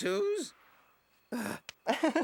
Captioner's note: gasps